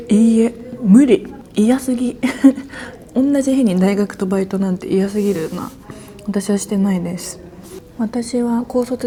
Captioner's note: laughs